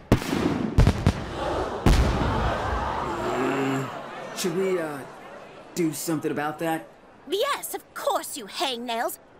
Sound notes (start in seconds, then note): 1.2 crowd gasps; 2.9 growls